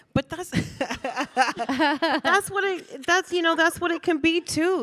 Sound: Michelle laughing

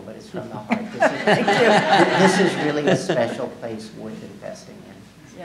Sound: laughing

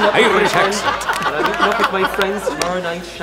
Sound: laughs

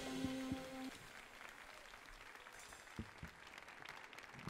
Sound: audience applauding

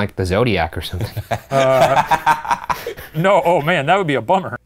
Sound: laughing

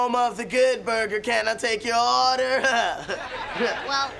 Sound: chuckles

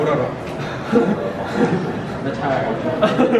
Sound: laughing

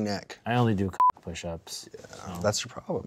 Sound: beep

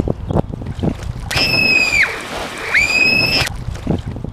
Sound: screaming

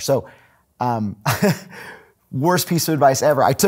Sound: laughing

